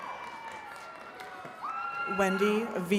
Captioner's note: attendees cheering and clapping